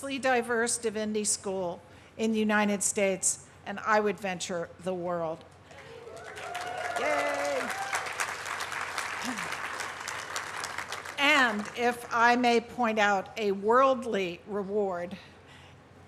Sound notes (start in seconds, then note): 5.7 cheering, applause; 7.7 applause